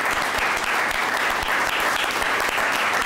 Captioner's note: applause